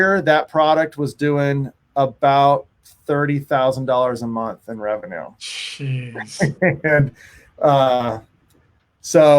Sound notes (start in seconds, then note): 6.0 laughing